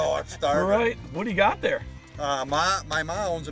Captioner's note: voiceover